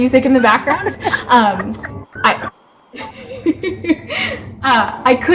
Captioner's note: laughing